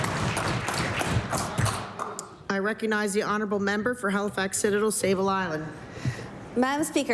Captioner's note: cheering/Applause